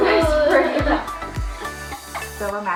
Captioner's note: laughing